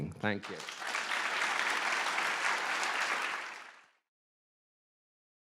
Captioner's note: applause